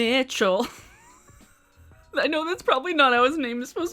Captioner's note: chuckles